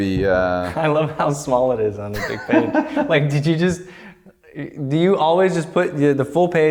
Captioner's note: laughter